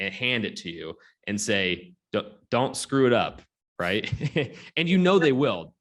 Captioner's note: laughs